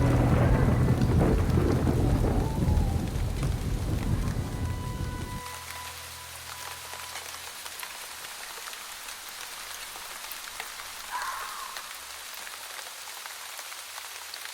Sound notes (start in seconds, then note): 0.0 thunder crashing; 5.2 gentle orchestral music continues; 6.8 rain pattering